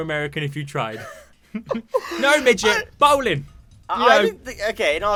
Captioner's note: laughter